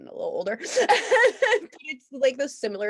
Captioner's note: both laughing